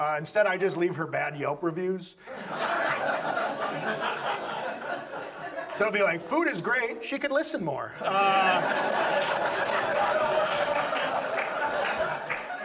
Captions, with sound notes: Instead, I just leave her bad Yelp reviews. (audience laughs) So it'll be like, "Food is great. "She could listen more." (audience laughs)